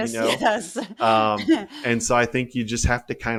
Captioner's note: laugh